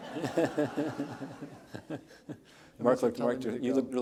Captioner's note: audience laughs